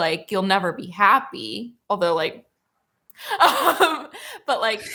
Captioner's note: laughs